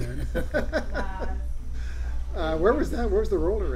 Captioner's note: laughs